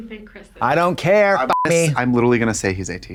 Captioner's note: beep